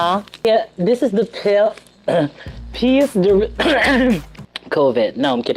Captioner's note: coughs